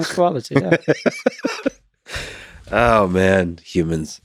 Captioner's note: both laughing